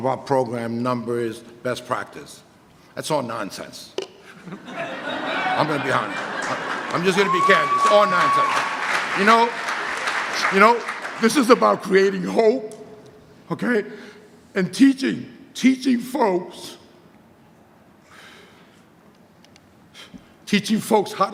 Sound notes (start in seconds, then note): 4.5 audience laughter and applause